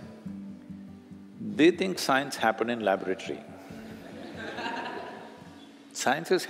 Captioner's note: laughter